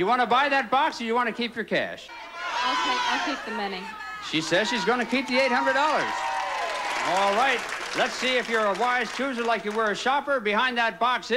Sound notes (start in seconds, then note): 7.8 audience applauding